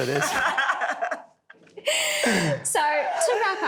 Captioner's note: laughing